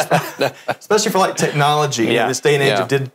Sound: laughs

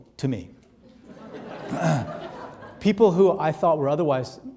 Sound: audience laughing

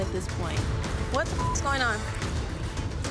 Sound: beep

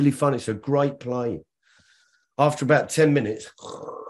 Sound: snoring

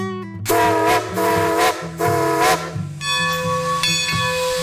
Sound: train hooting; bell ringing

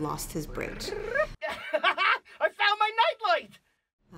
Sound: trills, chuckles

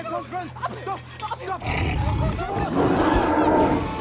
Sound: growling

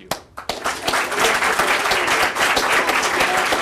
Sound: applause

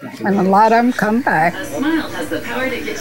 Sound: television Voice

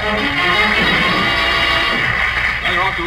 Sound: audience applauds

